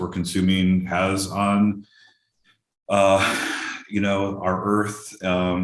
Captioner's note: sighs deeply